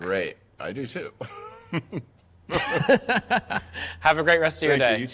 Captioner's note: both laugh